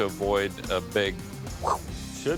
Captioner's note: whoosh